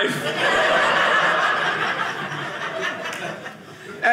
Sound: audience laughing

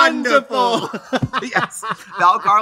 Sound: both laugh

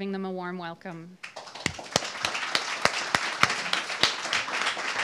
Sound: audience applauding

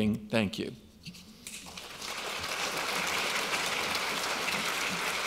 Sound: audience applauds

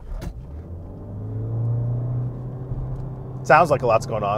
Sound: engine rumbling

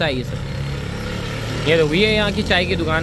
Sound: engine vrooming

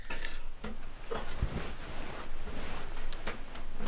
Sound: bedsheets rustling

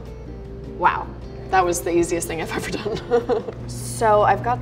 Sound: chuckles

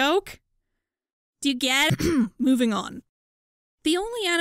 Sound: coughs

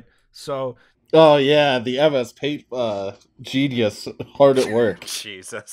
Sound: laughter

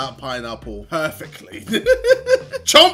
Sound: laughs

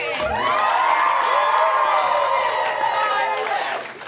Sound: applause

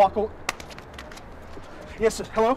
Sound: phone clattering

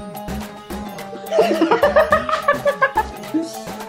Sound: laughing

